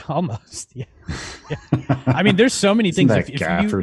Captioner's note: laughs